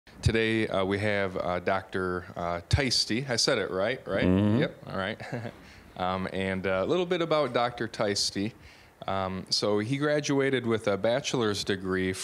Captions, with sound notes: >> Today, we have Dr. Theiste-- I said it right, right? >> Mmm-hmm. >> Yep, all right. (chuckling) And a little bit about Dr. Theiste. So he graduated with a Bachelor's degree